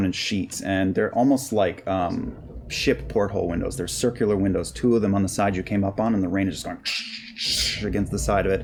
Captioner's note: crashing